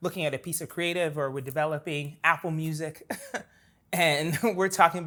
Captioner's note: laughs